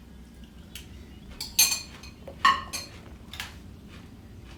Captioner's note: spoon clinking